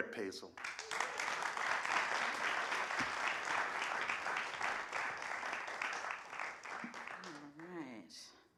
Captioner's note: applause